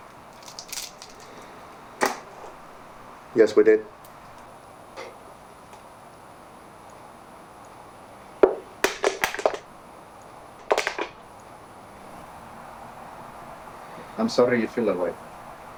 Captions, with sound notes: (shell cracking) - Yes, we did. (can clacking) I'm sorry you feel that way.